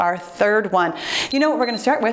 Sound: timer beeps

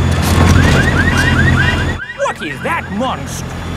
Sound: car alarms blaring

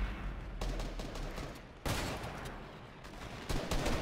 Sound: guns firing

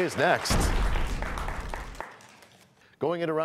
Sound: crashing sound

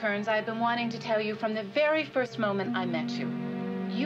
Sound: phone buzzes

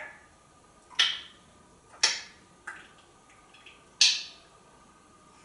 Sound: sort of smacking sounds

